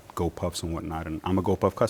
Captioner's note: none